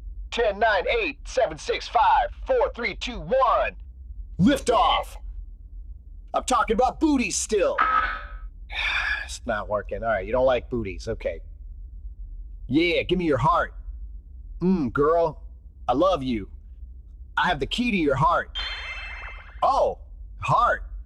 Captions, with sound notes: Ten night eight seven six five four three two one Liftoff! I’m talking about booties still. (Sigh) It’s not working, alright, you don’t like booties, okay. Yeah, give me your heart. Mm, girl. I love you. I have the key to your heart. Oh, heart!